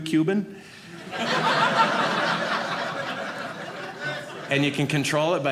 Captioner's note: audience laughing